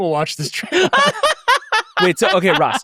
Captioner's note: laughing